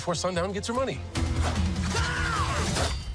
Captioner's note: knife slashing; screams